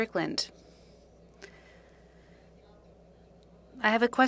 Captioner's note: speaking French